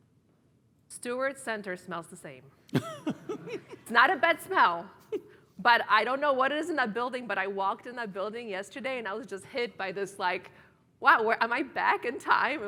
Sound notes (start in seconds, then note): 2.7 laugh